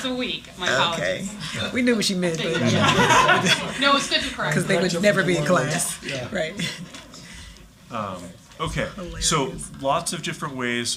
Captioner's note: laughter